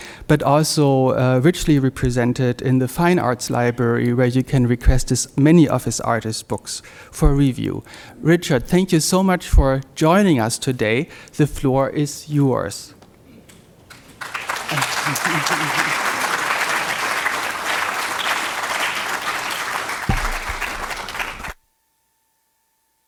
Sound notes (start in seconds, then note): 13.8 crowd applauds